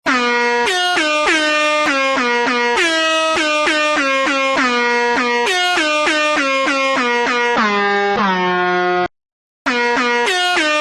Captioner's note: air Horn sound